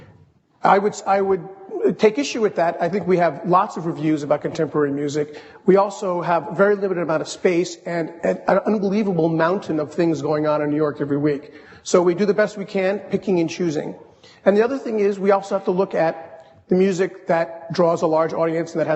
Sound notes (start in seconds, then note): none